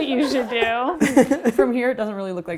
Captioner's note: laughs